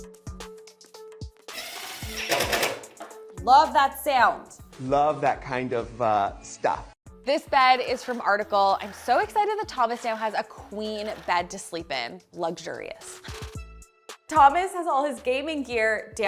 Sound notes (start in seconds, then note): 1.6 mechanical noise